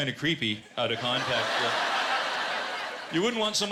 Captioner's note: laughter